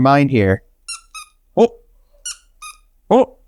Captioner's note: toy squeaks